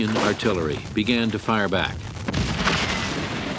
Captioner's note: explosions